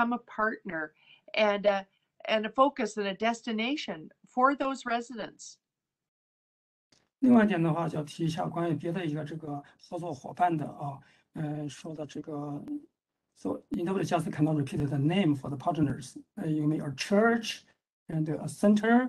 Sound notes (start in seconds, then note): 10.5 speaks in Mandarin